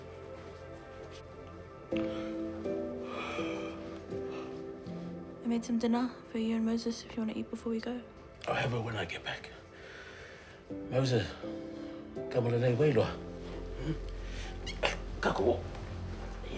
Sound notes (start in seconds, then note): 3.0 yawns, sighs